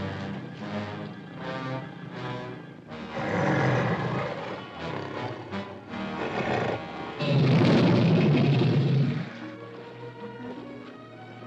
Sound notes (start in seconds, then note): 0.0 dramatic ominous music; 3.0 tiger growls; 7.2 crocodile roars; 9.9 sentimental music; 9.9 water splashing